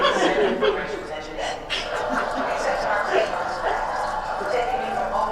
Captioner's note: laughs